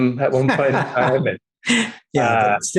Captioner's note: laughing